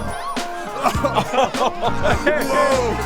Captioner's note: cheesy sitcom laugh